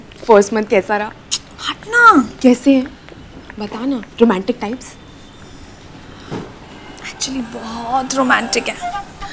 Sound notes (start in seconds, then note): 1.3 Clicks tongue